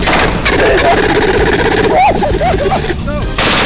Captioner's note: cries of Fear